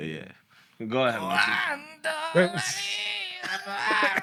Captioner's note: non-english Speech